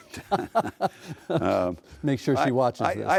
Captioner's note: laughing